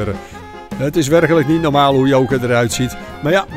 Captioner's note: voiceover